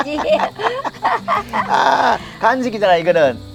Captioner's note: both laughing